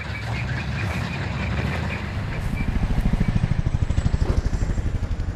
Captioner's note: vehicle engine rumbling; helicopter blades whirring